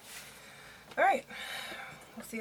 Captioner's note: sighs